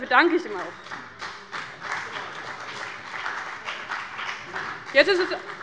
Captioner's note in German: Beifall bei dem BÜNDNIS 90/DIE GRÜNEN und der CDU